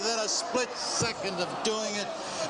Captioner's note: audience gasping